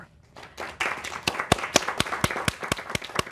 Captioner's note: applause